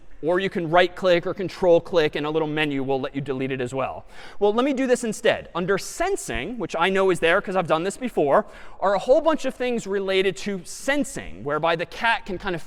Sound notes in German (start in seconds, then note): none